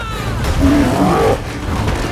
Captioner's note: yells; roar